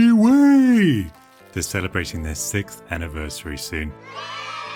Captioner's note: kids cheering